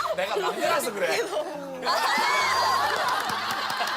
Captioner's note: laughter